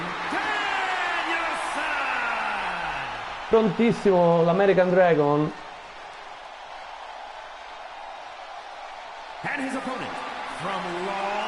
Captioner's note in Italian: Applauso